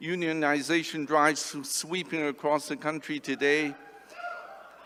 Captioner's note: cheering